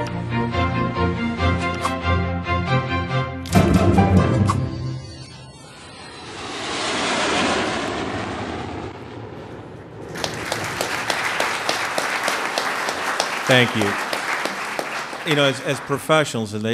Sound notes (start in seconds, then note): 10.0 applause